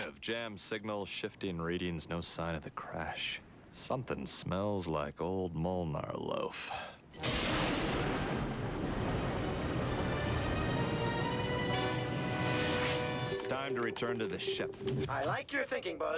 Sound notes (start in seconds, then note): 7.2 thunder